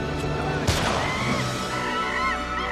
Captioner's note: gunshot